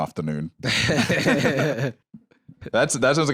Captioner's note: chuckles